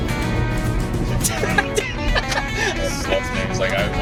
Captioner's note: laughs